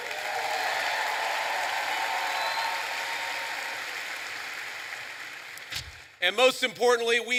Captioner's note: applause